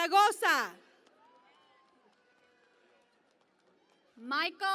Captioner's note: cheering and Applause